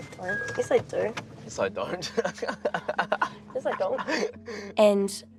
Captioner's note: chuckles; laughs